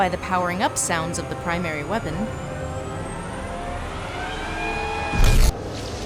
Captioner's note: revving up sound effect